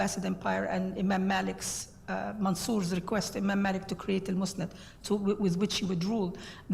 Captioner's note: foreign words